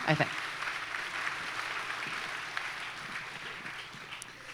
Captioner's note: applause